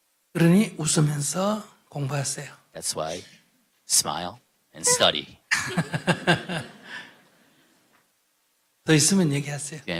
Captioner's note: /Questioner Laughter